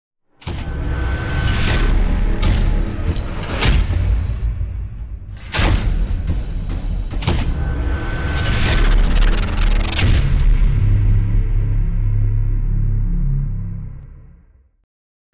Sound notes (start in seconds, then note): 0.8 thudding and clanging; 10.0 explosion resounds